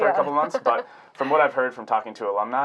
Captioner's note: laughing